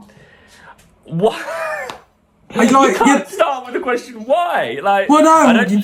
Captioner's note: laughs